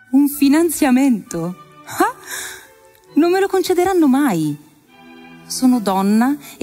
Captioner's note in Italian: voce di donna fuori campo